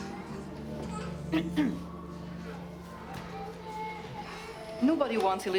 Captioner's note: nun clears throat